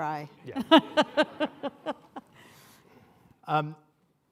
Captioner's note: laughs